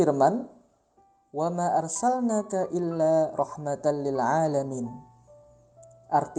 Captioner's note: reading a quran verse